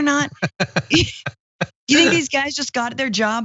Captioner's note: laugh